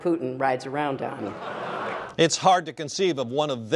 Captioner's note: laughter